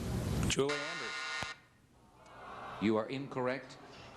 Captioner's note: buzzer